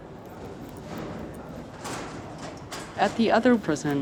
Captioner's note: din of many far-off voices, clanging